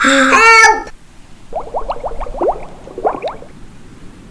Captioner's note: bubbling